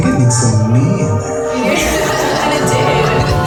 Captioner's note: laughter